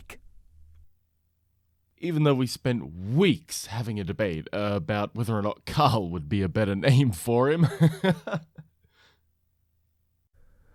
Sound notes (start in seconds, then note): 7.5 chuckles